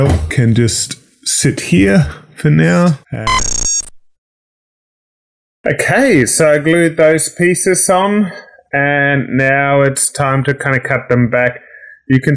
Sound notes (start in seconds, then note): 3.2 text beeps